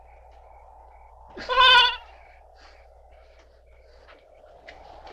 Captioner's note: goat bleating